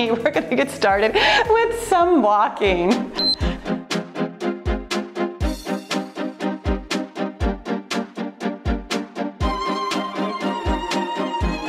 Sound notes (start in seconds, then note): 3.1 timer beeps; 3.2 cheerful music